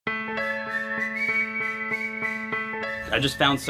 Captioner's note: whistling; voiceover